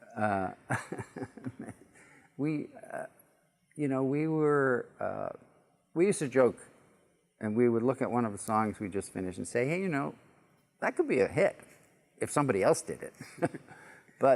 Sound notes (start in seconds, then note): 2.4 chuckle